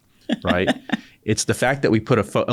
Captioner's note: laughter